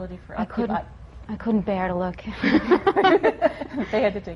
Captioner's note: laughter